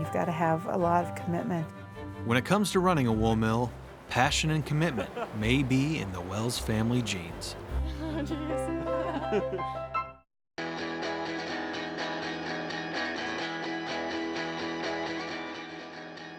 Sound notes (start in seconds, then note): 7.8 both giggle; 8.1 soft music; 10.6 rock music